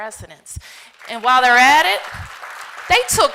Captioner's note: applause